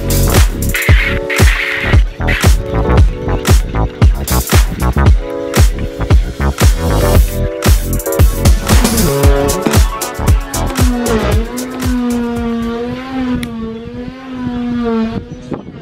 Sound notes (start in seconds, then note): 12.5 saw whirring